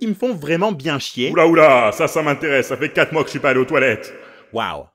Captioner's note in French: grosse voix